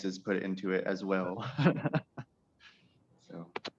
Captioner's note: chuckles